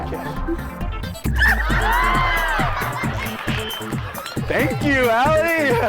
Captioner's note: audience laughing